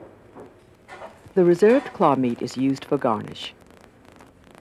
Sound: voiceover

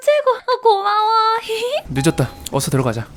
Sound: giggles

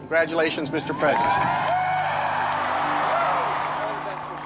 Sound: cheers and applause

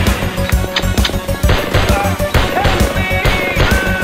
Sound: M16 gun sync with music

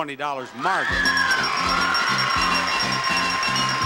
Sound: crowd screams; bell dings

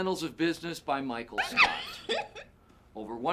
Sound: laughs

